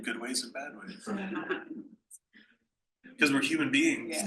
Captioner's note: panel laughs